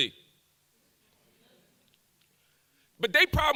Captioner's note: audience murmurs